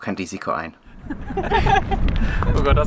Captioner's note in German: Lachen